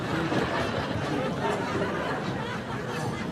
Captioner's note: laughter